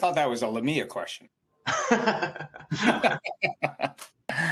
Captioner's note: laughter